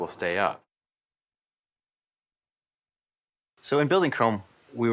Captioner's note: pause